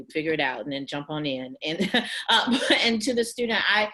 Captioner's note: chuckles